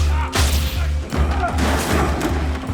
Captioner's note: metal clanging; sparks crackling; table thudding